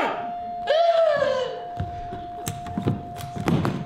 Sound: shrieks

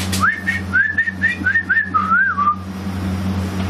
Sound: whistles

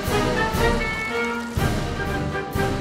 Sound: energetic patriotic music; car horn honks

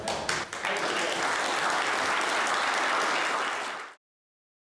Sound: applause

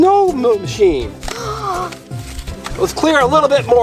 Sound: gasps

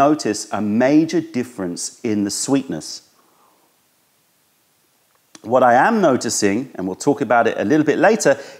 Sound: sips tea

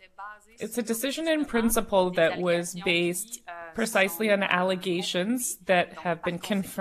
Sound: speaking French

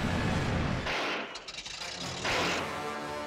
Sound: sputtering

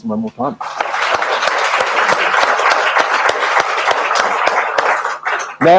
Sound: audience applauding

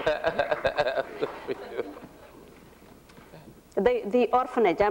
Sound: laughter

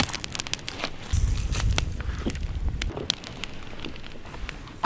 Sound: coffee pouring

